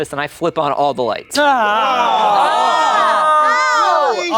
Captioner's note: everyone yelling